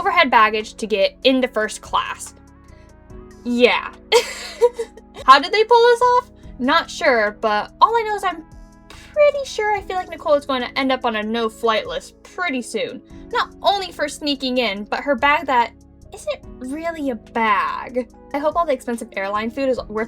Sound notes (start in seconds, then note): 3.4 sigh; 4.1 giggles